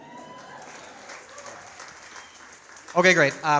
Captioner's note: audience cheers